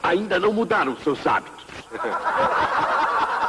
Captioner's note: laughter